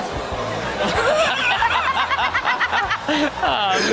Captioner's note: everyone laughs